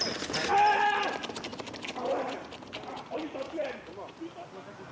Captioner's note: player shouts